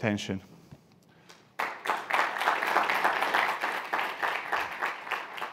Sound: audience applauding

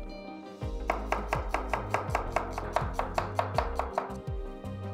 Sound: chopping sound

